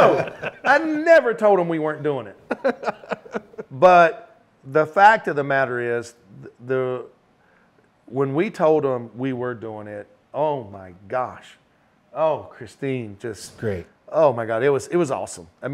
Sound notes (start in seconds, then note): 2.4 laughing